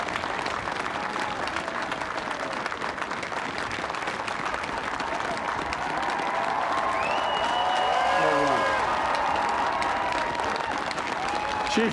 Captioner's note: applause; cheering